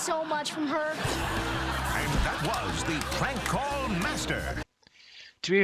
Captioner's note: canned laughter